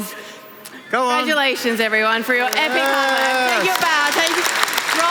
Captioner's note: clapping